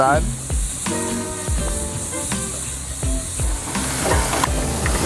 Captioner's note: meat sizzling